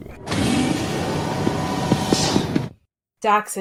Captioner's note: door opens